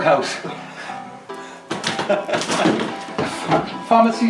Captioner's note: laughing